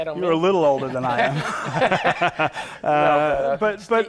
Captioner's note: laughter